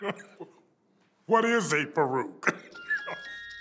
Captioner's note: laugh